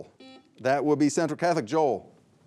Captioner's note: buzzer buzzing